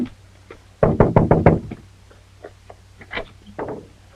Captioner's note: knocks